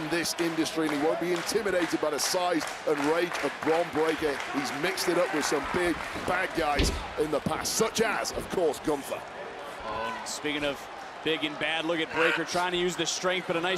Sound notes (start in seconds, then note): 2.8 crowd clapping